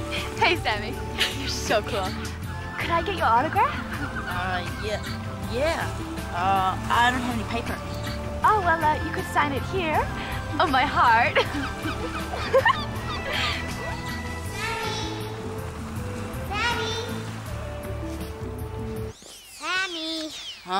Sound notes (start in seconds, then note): 10.0 laughs